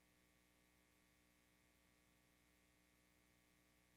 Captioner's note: none